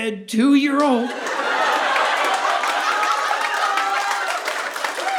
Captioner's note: audience laughing